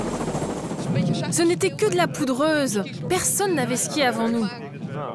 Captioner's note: foreign language spoken audio